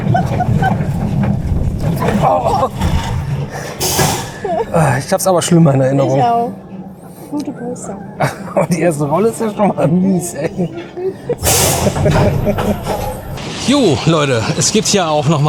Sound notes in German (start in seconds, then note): 10.2 gelächter